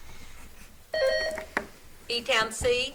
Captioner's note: buzzer beeps